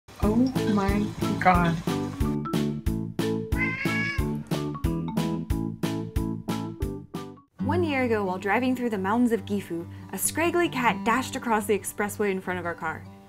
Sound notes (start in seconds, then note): 0.3 bouncy music; 3.5 Poki meows